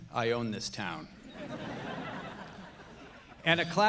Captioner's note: audience laughing